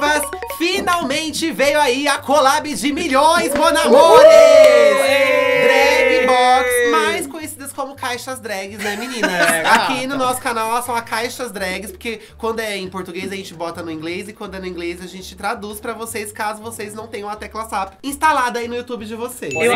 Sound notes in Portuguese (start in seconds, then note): 8.8 risos